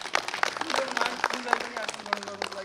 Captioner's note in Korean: 박수 소리